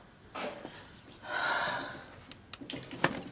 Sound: sighs

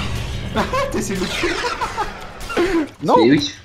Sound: laughter

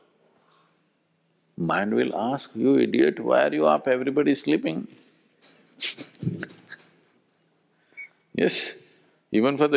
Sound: laughs

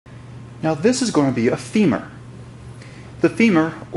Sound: voiceover

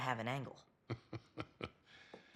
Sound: laughs

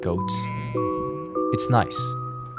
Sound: goat bleating

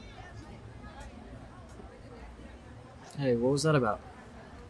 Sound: students chattering

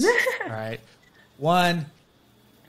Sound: chuckles

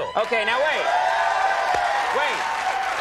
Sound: crowd cheers

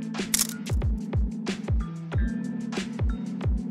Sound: camera clicking

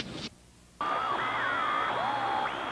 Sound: radio searching for frequency

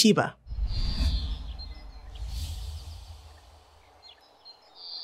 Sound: birds tweeting

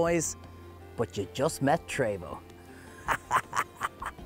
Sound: laughs

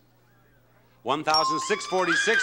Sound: bell dings

